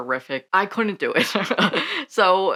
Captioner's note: laughs